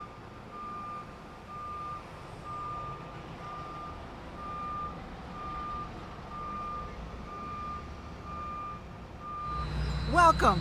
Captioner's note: beeping